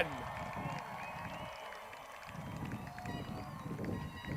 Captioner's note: crowd cheers